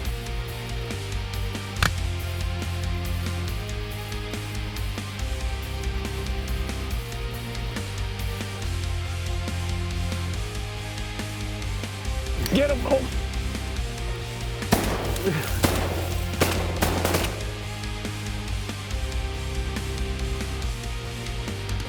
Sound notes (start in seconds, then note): 1.6 gun shot; 14.6 gun shots